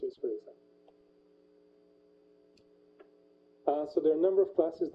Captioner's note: pause